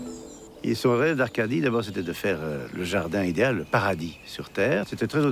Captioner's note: speaking in foreign language